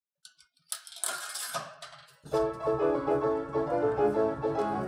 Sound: metallic sound of the nickel rolling down the slot

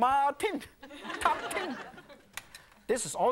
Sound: audience laughing

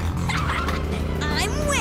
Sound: laughs

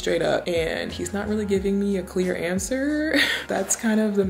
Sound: chuckles

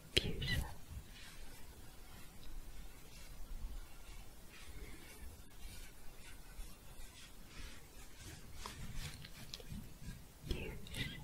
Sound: shuffling

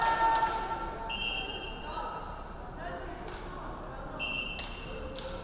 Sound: crowd cheering; referee whistling

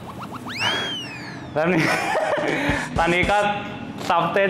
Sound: panting

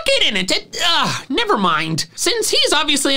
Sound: scoffs

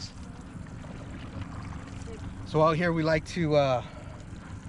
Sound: fish splashing

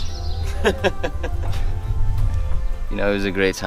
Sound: hearty laughter

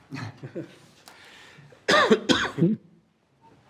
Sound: group chuckles

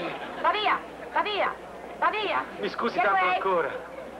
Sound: scolding in Italian

